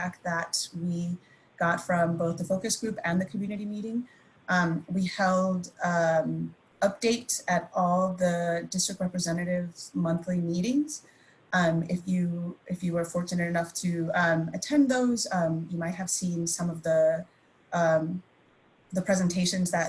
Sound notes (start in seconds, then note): none